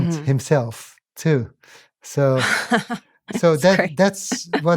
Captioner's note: laughs